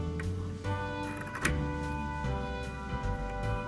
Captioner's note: snips